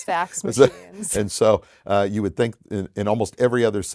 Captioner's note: laughing